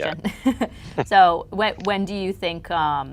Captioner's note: laughs